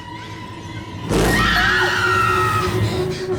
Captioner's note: screams